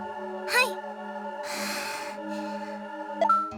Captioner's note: relieved sigh